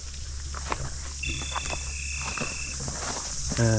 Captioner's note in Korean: 지리리링~ gps 수신음